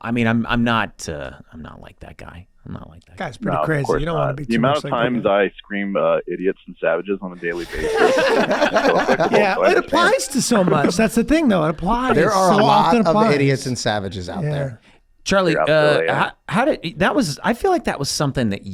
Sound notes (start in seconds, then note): 7.5 everyone laughs